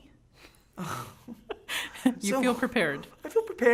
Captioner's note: laughing